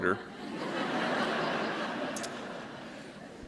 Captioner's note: laughter